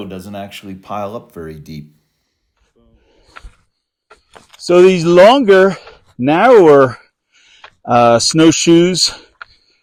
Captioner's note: snow crunching